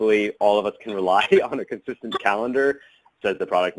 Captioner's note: laughs